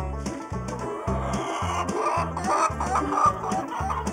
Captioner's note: cackling